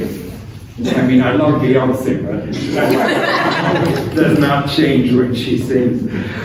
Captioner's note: laughter